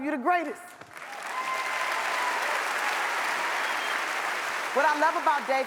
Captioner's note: audience applauds